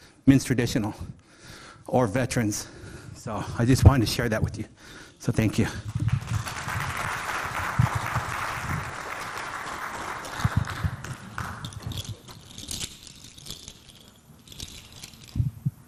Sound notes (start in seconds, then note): 5.8 audience clapping; 12.2 beads clinking